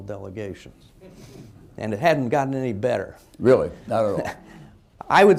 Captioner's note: laughter